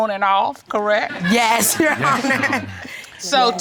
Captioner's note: laughs